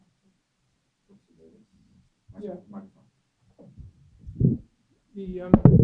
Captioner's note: speaking off mic